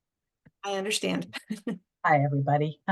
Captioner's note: laughter